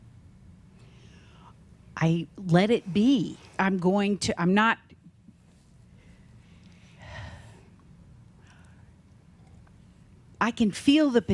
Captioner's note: she sighs